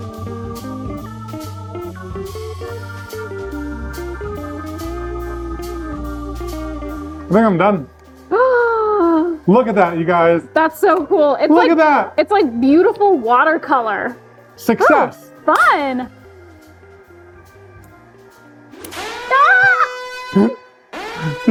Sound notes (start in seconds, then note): 0.2 smooth music; 8.6 gasps; 18.8 hand slaps; 19.2 exclaims